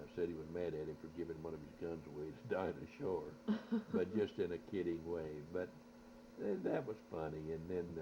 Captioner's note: both laugh